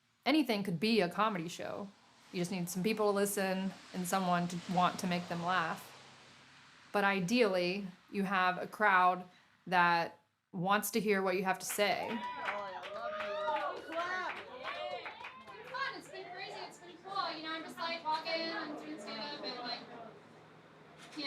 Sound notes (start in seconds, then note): 12.1 audience applause; 12.1 audience cheering